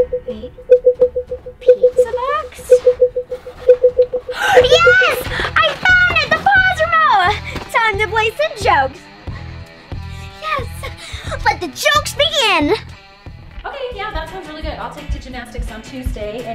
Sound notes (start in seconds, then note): 0.0 beeping grows faster and louder; 0.0 beeping continues; 4.3 gasps; 9.5 instrumental rock music